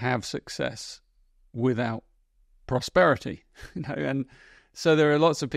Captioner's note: chuckles